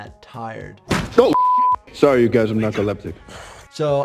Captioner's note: beep